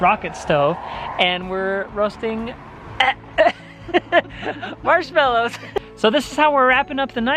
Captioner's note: laughs